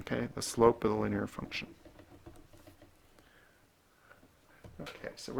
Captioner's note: writing